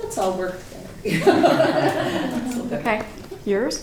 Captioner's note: laughter